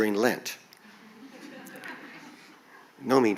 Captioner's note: audience chuckles